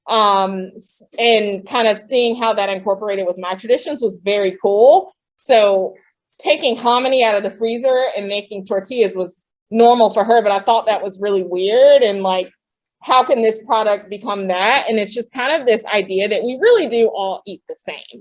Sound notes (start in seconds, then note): none